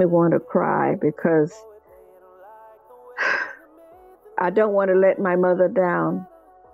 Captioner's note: sighs